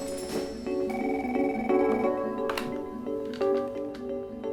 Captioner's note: light music; phone ringing